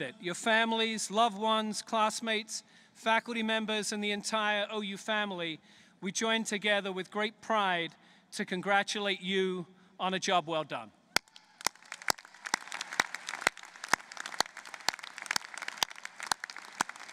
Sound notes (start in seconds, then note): 11.1 applause